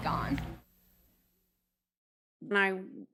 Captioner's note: static fades